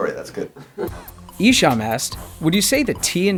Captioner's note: voiceover